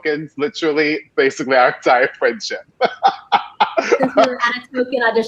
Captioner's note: laughing